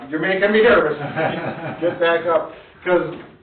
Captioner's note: laughing